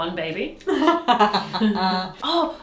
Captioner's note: laughing